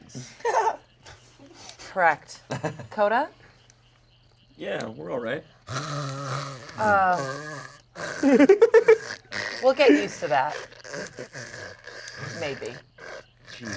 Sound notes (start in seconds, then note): 0.0 laughs; 5.7 snores; 8.0 giggles; 10.7 continues snoring